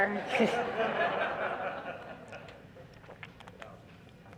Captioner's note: laughter